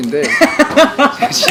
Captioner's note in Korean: 웃음